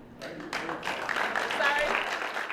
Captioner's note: applause